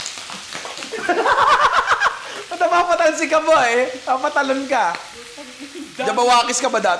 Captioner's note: laughs